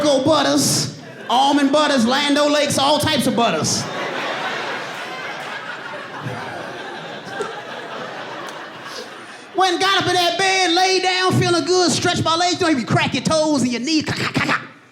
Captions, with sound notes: [AUDIENCE LAUGHS] Went and got up in that bed, laid down, feeling good, stretched my legs, doing the crack your toes and your knee... [MIMICKING SOUND FROM KNEE] [AUDIENCE LAUGHS] Feeling good, I'm in the bed,